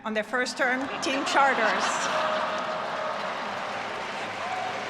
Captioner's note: all laughing